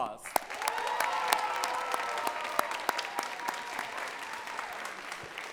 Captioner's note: audience cheering and clapping